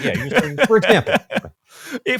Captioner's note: laughing